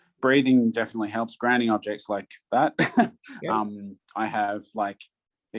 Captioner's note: laughs